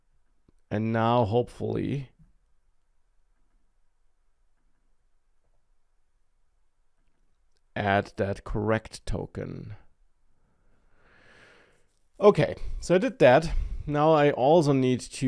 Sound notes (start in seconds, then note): none